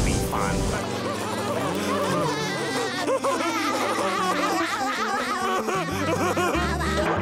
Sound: laughing

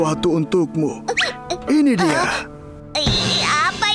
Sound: Wilk whimpers

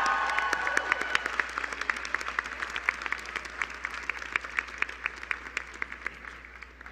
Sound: applause

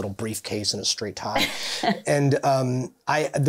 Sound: chuckling

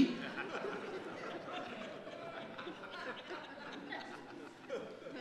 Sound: audience laughing

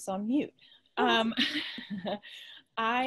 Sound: laughs

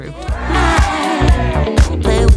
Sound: crowd hoorays; dance music continues

